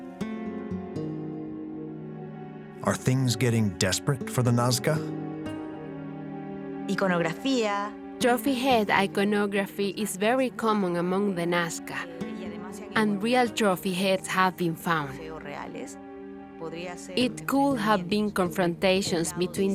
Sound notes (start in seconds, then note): 6.8 speaking Spanish